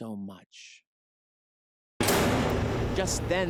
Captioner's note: door slams